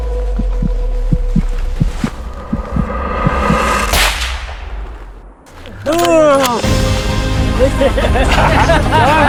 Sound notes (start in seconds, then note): 0.1 heartbeat; 3.8 shot